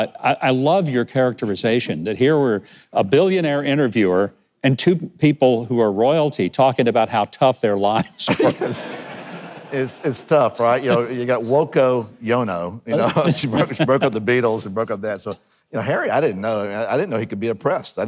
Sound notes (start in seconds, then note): 8.0 people laughing; 12.9 speakers laughing